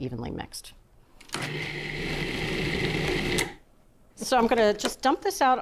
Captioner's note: food processor whirring